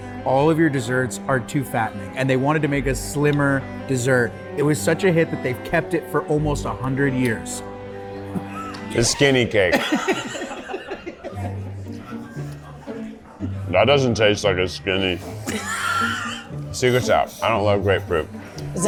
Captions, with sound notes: all of your desserts are too fattening and they wanted to make a slimmer dessert. It was such a hit that they've kept it for almost a hundred years. - The skinny cake. (laughter) That doesn't taste like a skinny. Secret's out. I don't love grapefruit.